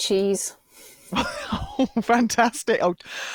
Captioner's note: laughs